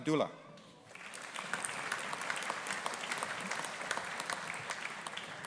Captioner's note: audience applauding